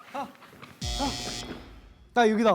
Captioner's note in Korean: 삐익